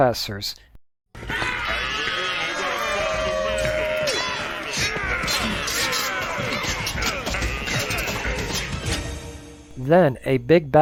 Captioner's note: sounds of fighting